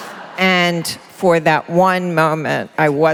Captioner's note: laughter